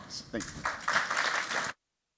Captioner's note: applause